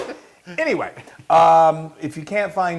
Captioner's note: laugh